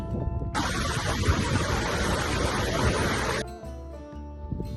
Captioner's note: waterfall noise